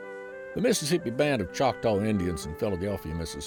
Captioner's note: relaxing music; voiceover